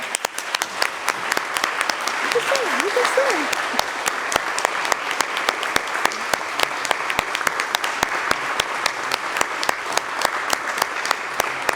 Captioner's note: applause